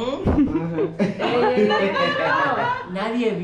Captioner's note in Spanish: Risas